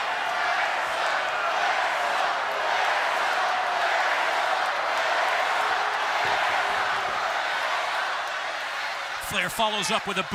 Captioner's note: crowd cheering